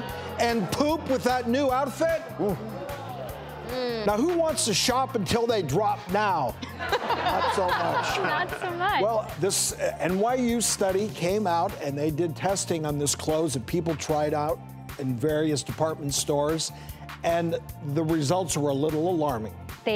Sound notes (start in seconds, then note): 3.6 groaning; 6.6 laughing